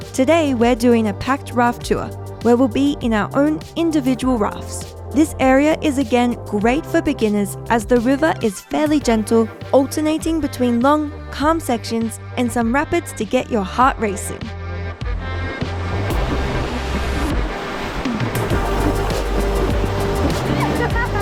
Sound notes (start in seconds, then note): 15.6 water splashing; 18.3 bright music